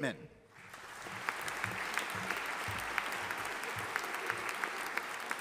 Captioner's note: audience applauding